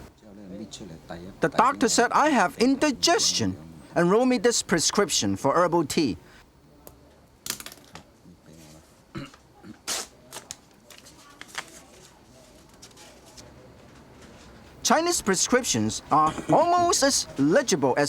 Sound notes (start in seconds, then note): 0.2 speaking in Chinese; 9.9 ripping paper